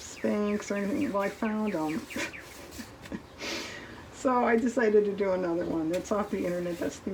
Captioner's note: laughs